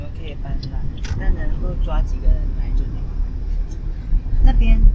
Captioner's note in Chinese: 哈哈哈哈哈